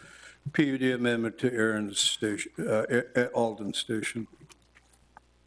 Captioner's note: stutters